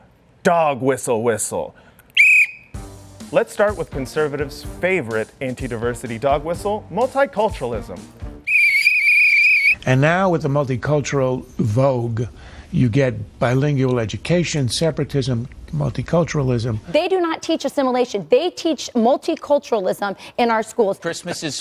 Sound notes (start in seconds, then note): 2.1 whistle; 8.4 whistle